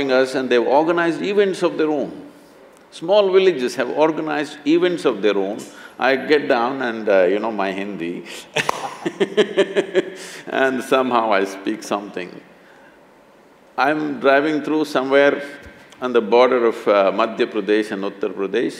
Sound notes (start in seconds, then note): 8.5 both laugh